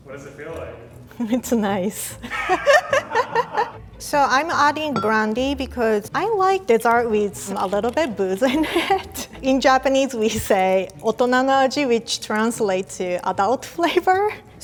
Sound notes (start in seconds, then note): 2.2 laughs; 10.4 speaks in foreign language